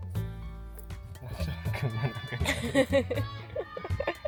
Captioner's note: laughs